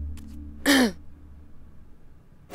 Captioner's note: Tipsy coughs